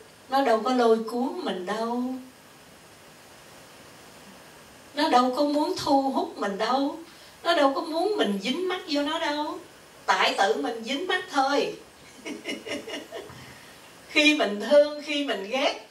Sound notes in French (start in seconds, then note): 12.1 rires